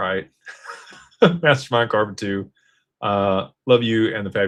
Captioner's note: laughter